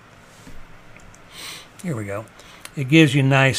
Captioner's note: sniffs